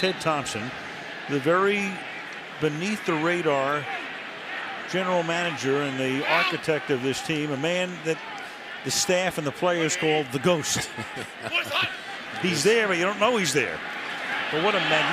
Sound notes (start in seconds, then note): 10.6 laughs